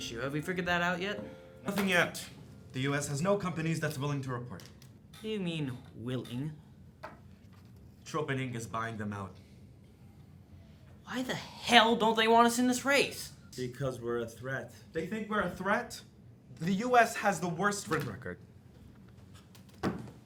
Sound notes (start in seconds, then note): none